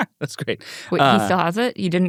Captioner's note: laughs